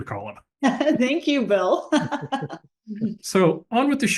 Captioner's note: laugh